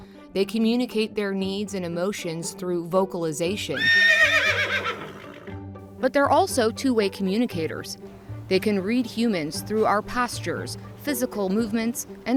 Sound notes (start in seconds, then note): 0.0 upbeat string music; 3.7 horse neighs and sputters; 9.0 upbeat string music